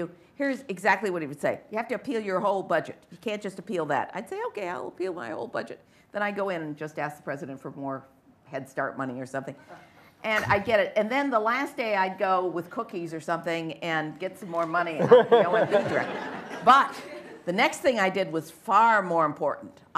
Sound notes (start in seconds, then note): 14.9 laughter